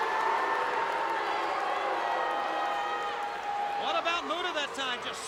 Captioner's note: crowd jeering